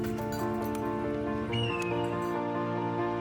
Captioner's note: metal clinking; bird chirping